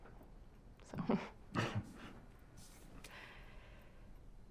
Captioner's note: laughs